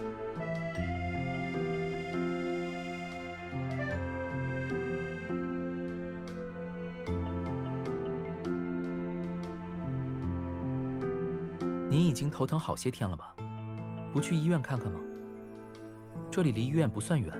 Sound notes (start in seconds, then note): none